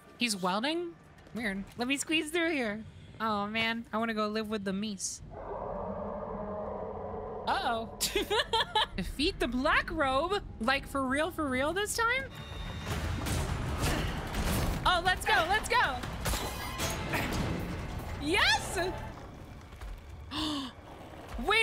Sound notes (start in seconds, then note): 5.3 in-Game Growling; 8.0 laughter; 20.3 gasp